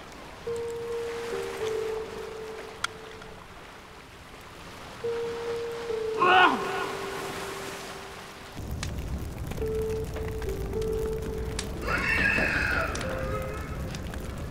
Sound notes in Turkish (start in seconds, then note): 11.7 İnliyor